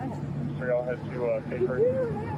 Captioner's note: radio chatter